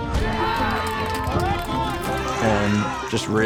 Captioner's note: lighthearted music; people cheering